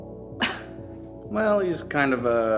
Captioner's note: sound of quick chuckle